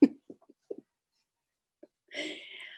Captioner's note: laughter